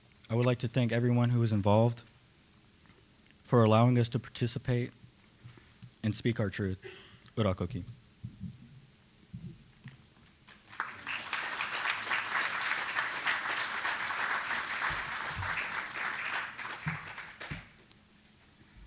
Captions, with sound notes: I would like to thank everyone who was involved for allowing us to participate and speak our truth. Urakoki. (applause)